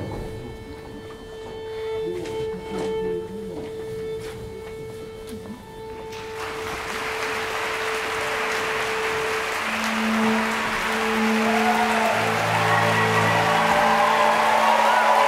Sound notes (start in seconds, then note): 6.1 applause